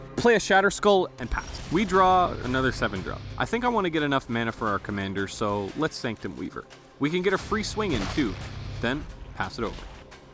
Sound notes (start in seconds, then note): none